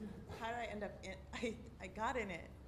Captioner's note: voiceover